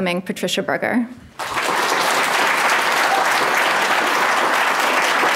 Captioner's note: audience clapping